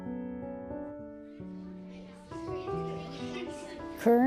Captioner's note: gentle piano music; children chattering